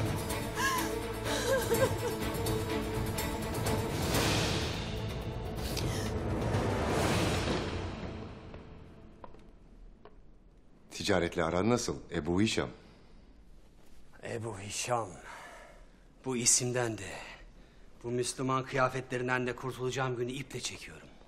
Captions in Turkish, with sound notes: (Ağlama sesleri) Ticaretle aran nasıl, Ebu Hişam? Ebu Hişam… ...bu isimden de… …bu Müslüman kıyafetlerinden de kurtulacağım günü iple çekiyorum.